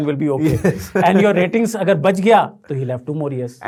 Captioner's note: laughing